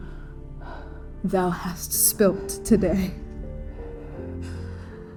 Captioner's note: breathing shallowly; breathing shallowly